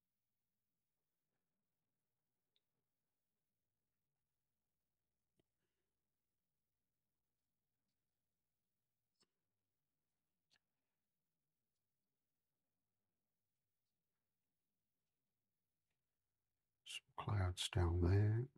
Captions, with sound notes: [silence] Some clouds down there.